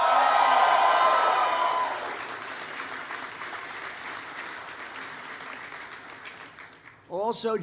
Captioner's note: applause